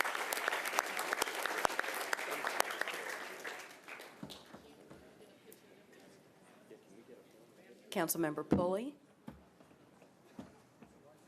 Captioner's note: applause